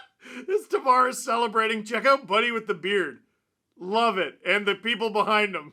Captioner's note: laughter